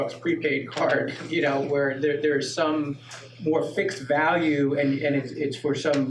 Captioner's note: laughs